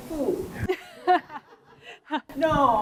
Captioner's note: laughs